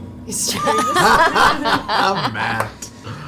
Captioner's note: all laugh